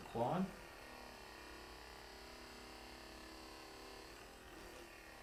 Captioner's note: Hypervolt GO vibrating